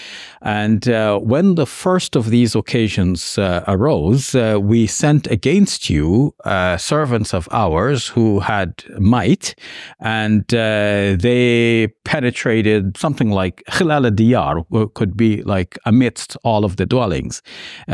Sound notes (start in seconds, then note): 14.0 speak in Arabic